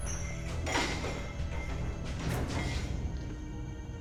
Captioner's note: metal rustling